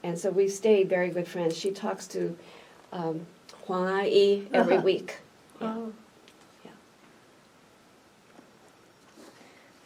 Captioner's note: aunt, in Mandarin